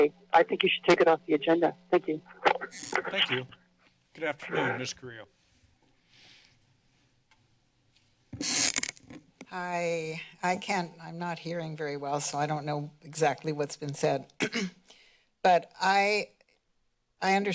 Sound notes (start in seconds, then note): 2.0 mic noises; 8.3 mic squeaking; 14.4 clears throat